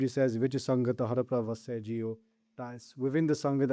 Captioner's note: reciting Gurbani — verify